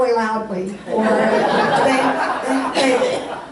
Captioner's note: audience laughs